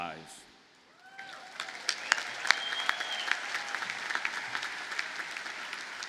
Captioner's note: audience cheers and applauds